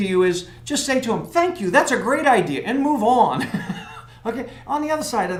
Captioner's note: laugh